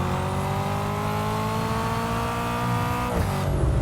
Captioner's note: car engine roaring